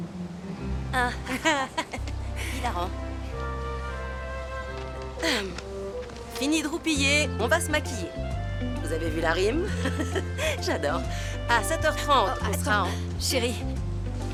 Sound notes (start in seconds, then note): 1.0 laughing; 5.0 clears throat; 9.6 laughing